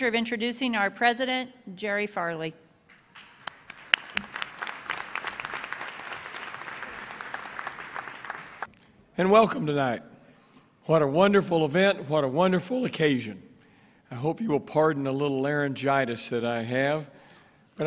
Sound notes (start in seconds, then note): 4.6 applause